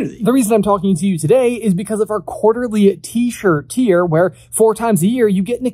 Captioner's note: none